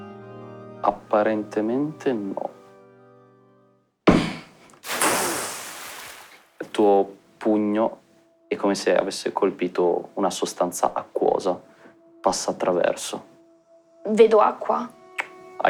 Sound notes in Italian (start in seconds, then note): 4.8 Splash; 15.2 Schiocco di lingua